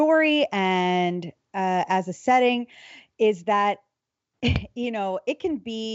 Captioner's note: laughs